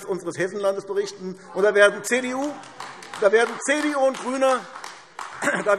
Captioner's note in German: Beifall AfD – Zurufe